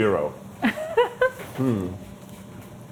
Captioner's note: chuckling